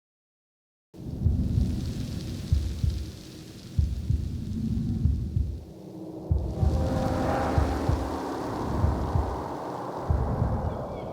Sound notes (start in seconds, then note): 1.0 thunder booming; 4.5 rain pouring; 6.4 wind howling